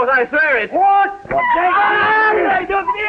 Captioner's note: shouting